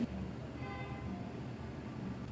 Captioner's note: traffic Horn